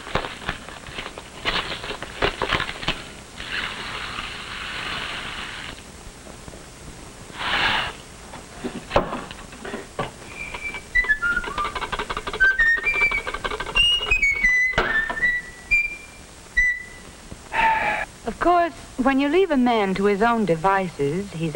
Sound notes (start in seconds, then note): 10.3 whistling